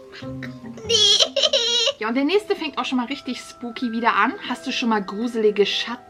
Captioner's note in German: gelächter